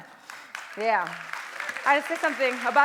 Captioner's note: applause